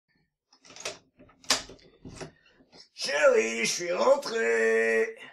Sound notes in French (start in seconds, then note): 0.6 bruit de clé dans la serrure